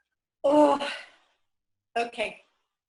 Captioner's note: groans